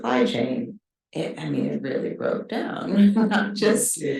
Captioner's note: chuckles